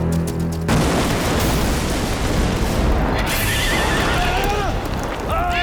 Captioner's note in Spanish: Explosión; Gritos; Relinchos